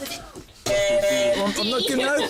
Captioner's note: buzzer